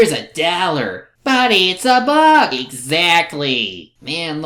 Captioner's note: imitating Arliss